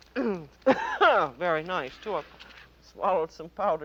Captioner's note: clears throat, coughs